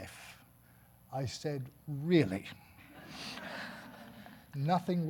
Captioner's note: audience laughing